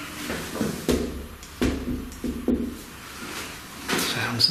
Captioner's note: thuds